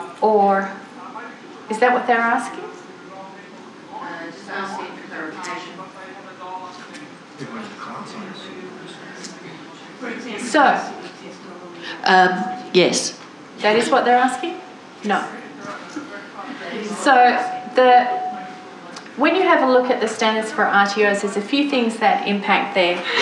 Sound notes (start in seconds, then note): 3.1 audience chatter